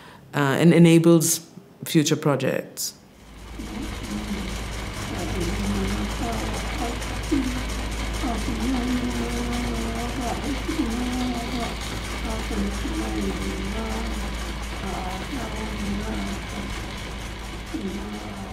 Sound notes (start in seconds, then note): 4.2 objects rattling and whirring; 4.2 singing